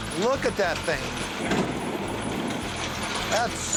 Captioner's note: train rattling